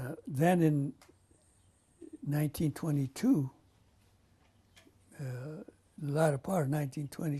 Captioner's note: pauses for 3 seconds